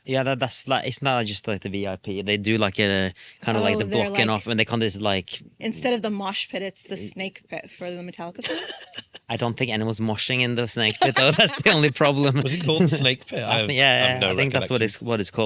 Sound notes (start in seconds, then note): 8.4 laughs; 10.9 laughs